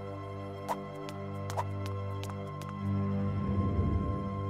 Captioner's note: feet shuffling